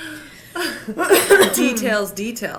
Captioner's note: Angelica chuckles; Regina coughs